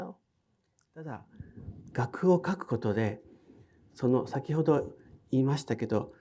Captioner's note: speaking in foreign language